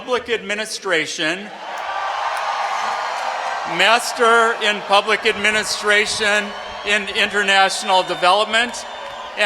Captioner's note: cheering